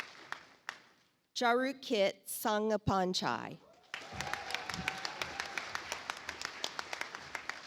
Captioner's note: audience applauds